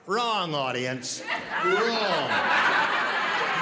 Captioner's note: laughter